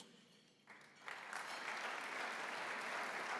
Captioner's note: applause